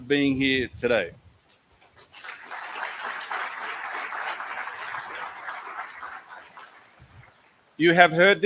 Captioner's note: applause